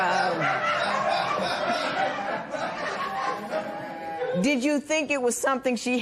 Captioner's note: laughter